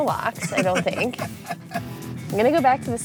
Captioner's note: laughs